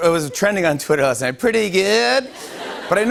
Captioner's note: laughter